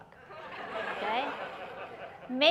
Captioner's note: laughter